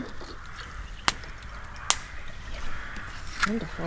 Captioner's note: fire cracking